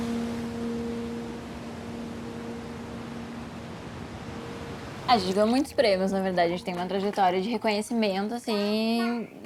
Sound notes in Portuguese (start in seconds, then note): 3.2 Música suave termina; 3.2 Ondas quebram